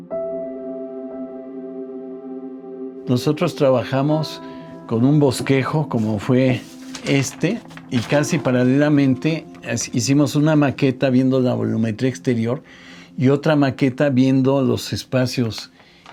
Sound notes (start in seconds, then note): 0.2 gentle music; 3.3 continues in Spanish